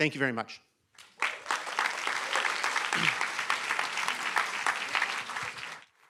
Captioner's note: applause